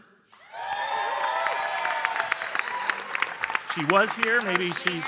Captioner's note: audience cheering and applauding